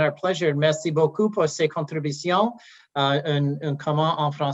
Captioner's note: speaking French